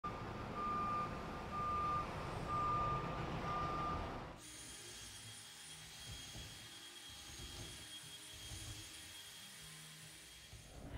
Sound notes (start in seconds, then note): 0.0 beeping of a truck backing up; 4.4 drilling